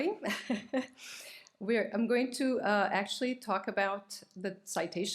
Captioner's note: chuckles